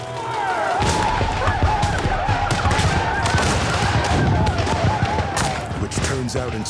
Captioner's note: chaotic yelling, gunfire